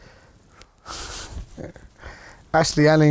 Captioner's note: laughing